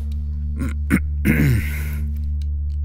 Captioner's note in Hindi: गले को साफ करता है